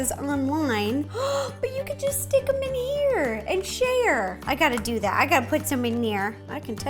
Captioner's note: gasp